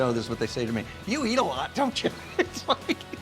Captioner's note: laughing